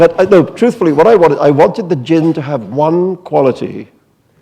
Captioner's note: none